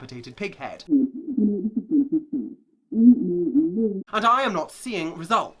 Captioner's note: voice muffled